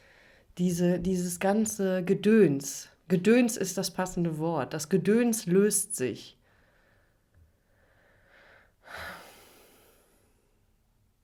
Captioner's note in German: seufzt